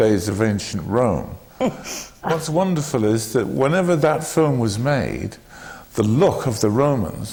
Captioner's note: laughs